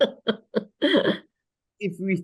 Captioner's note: laughs